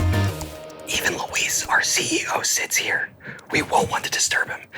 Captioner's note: whispering